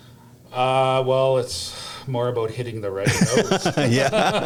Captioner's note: laughter